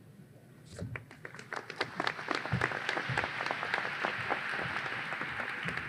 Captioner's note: audience applause